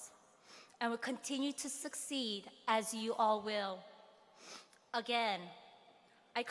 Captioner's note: none